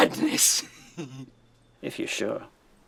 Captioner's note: laughing